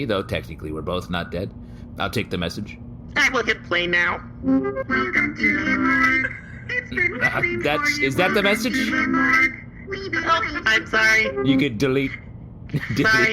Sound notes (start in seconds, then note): 7.1 file playback start sound; 11.3 file playback end sound